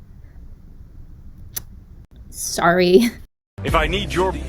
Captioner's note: smacks lips